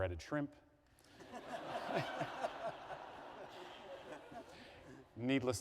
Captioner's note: laughter